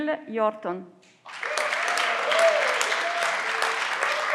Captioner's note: everyone claps